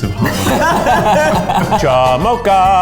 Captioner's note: laughing